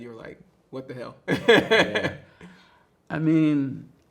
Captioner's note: laughs